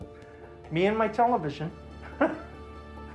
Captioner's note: chuckles bitterly